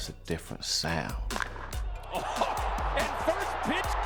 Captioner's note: bat clicks against ball